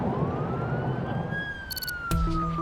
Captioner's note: sirens